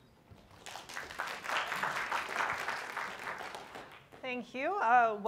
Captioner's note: audience clapping